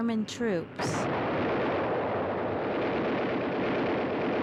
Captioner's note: guns firing